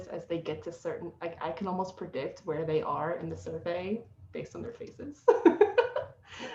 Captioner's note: laughing